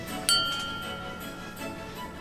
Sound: comical flute whistles; suspenseful music; dings

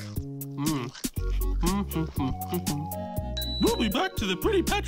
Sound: hums and chews

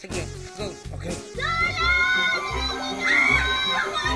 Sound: screams

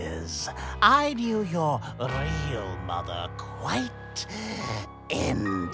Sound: deep breath

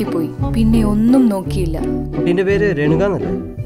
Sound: none

